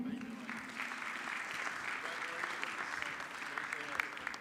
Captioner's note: audience clapping